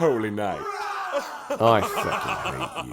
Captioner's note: pride-filled chuckling